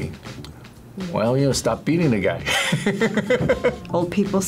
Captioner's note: laughs